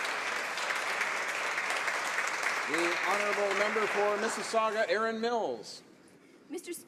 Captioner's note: some Applause